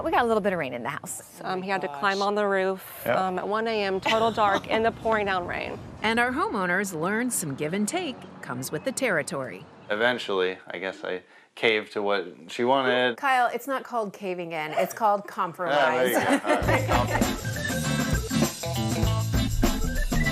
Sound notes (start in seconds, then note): 15.6 group laughs; 15.7 laughs; 16.0 upbeat music